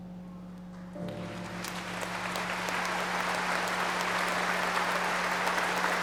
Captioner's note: audience applauding